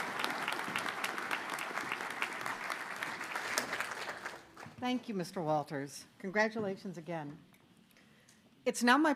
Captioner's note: applause